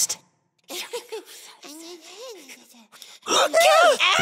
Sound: whispering

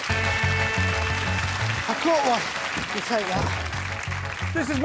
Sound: applause

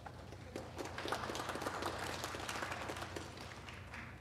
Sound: applause

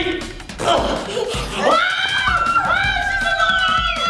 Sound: screaming

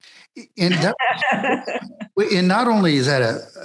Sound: laughing

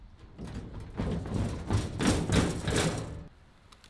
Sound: metal clanking

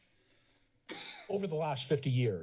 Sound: cough

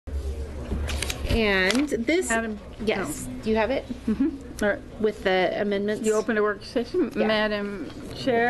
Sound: chatter, back and forth confusion

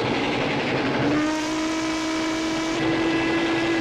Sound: whistle blowing

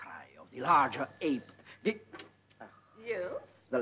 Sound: telephone rings

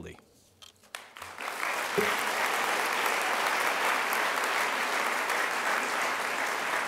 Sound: crowd applause

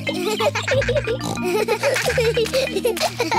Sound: giggling; peppa snorts

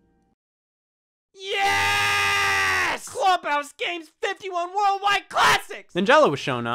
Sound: shouting

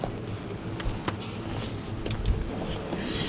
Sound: none

